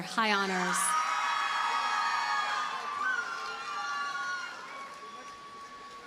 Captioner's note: audience cheers and applauds